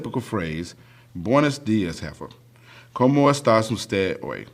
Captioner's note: speaking spanish